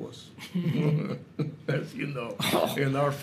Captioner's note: both laugh